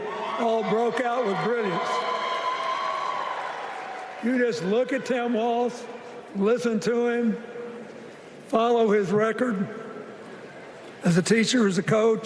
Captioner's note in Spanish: Vitores